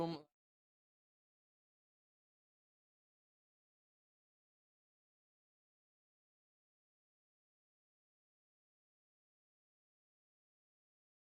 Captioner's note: silence